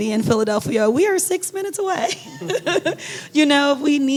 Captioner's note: laughing